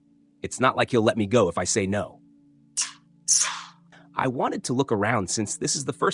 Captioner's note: sigh